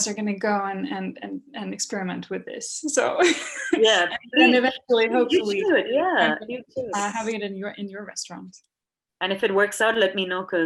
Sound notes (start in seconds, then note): 5.1 laughs